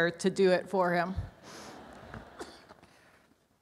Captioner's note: audience laughs